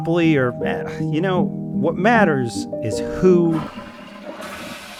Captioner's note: sighs; toilet flushes